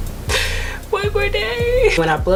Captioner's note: laughing